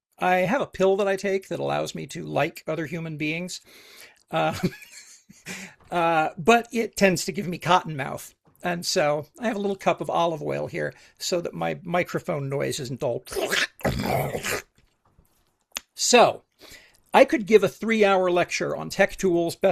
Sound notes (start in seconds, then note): 4.4 laughs; 13.3 groans